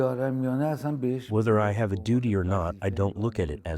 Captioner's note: through translator